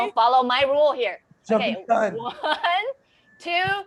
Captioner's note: faintly speaking